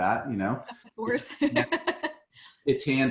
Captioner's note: laughs